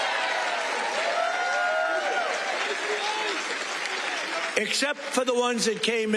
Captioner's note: cheers